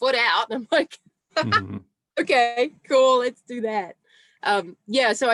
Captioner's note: laughs